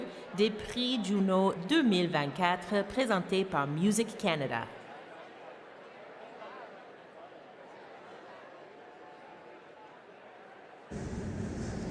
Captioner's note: speaking French